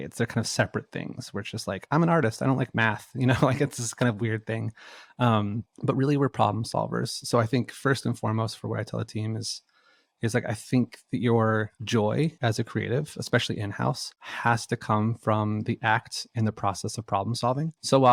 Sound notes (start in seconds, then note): 3.0 laughs